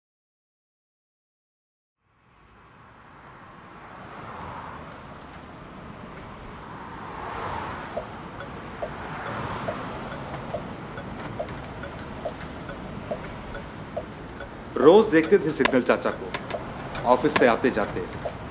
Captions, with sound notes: I see Signal Chacha (traffic signal) everyday On my way to work